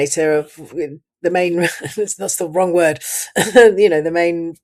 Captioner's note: laughs